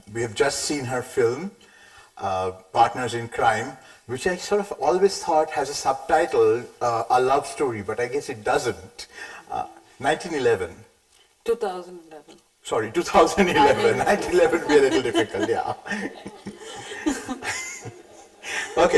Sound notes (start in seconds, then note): 15.2 chuckles; 16.9 light chuckling